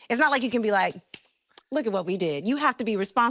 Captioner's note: smacking hands